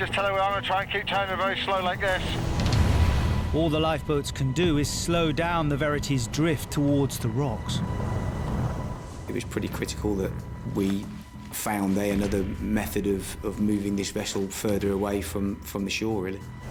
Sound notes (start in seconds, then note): 7.6 waves crashing